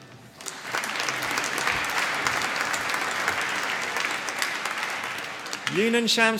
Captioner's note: applause